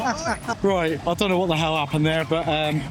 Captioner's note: laughing